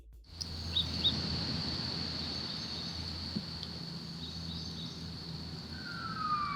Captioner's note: birds